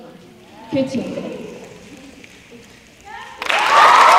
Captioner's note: speaking in foreign language; audience snapping; cheers and applause